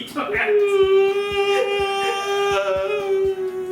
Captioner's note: makes a cry-yawning sound